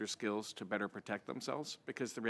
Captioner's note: speaking French